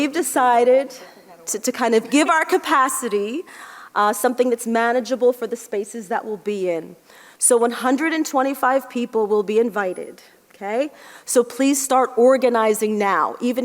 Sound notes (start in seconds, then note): none